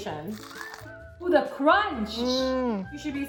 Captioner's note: sandwich crunching